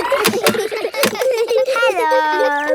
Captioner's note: kids giggling; laughs